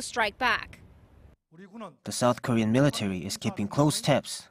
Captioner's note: Korean